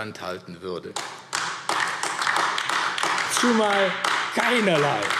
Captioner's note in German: Beifall AfD